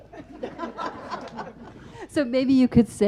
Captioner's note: audience laughs